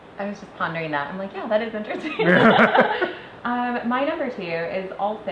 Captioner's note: laughs